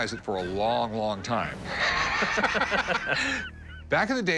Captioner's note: laughter